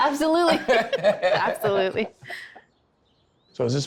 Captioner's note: laugh